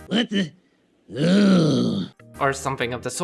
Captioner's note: groans